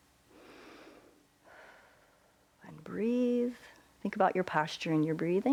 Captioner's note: inhales and exhales